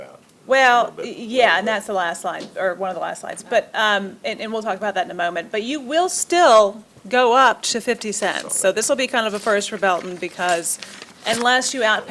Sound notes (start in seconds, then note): none